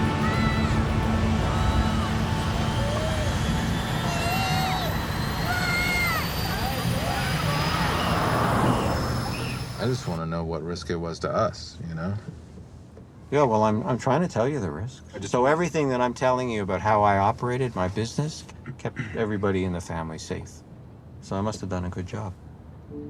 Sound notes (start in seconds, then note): 6.5 plane engine roaring